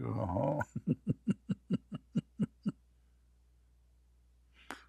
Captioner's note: Ketawa